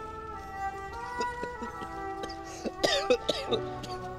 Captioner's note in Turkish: Öksürüyor